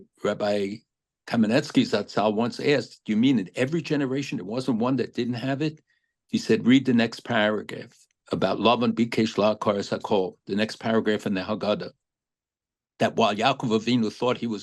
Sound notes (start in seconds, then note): 9.2 speaking hebrew